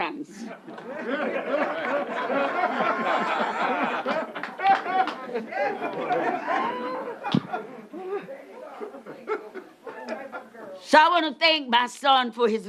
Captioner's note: applause